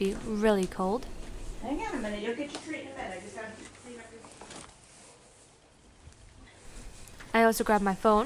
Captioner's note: steps